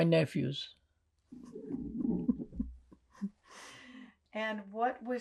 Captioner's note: laughing